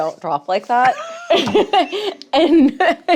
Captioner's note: laughing